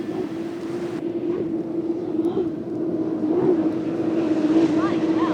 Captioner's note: engine roaring